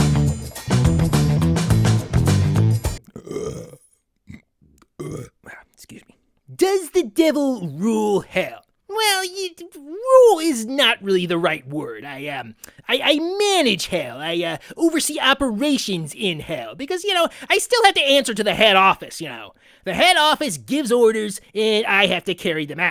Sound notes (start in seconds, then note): 3.0 belches